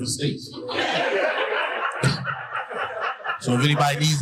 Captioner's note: audience laughing